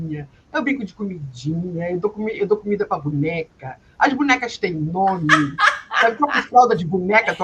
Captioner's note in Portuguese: risadas